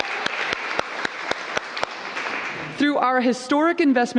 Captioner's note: applause